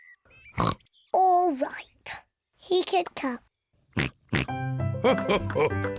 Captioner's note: both snort; snorts; laughs